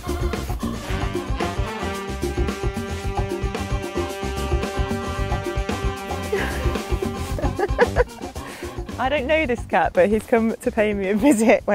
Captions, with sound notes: (upbeat instrumental) - (laughs) I don't know this cat, but he's come to pay me a visit